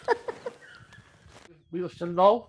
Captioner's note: laughter